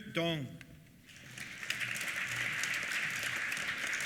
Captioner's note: applause